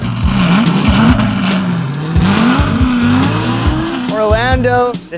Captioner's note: car engine starts